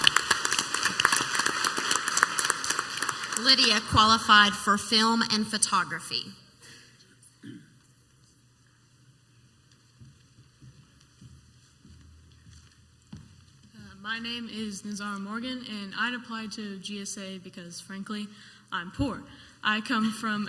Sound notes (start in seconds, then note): 0.0 clapping; 7.4 throat clearing; 11.6 foot steps